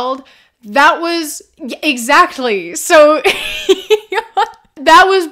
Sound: laughter

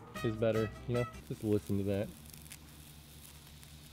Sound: Coke Fizzing

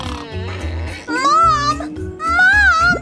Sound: snoring

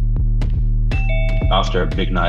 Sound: doorbell

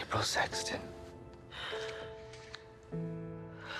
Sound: breathes deeply

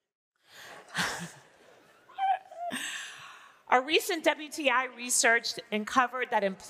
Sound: laughing

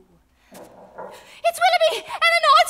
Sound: knocking on door

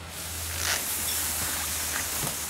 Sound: rustling

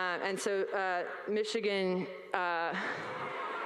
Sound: audience laugh

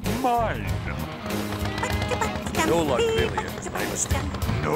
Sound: trucks laughing

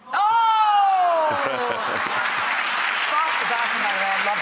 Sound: audience applause

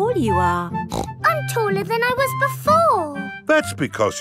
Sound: snorts

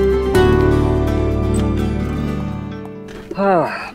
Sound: door opens

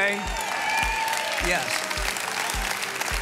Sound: congregation applauds

